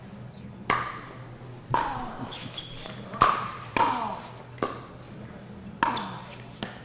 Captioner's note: ball being hit; shoes squeaking